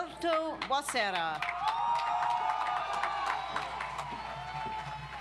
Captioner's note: audience applauds